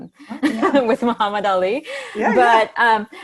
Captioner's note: laughs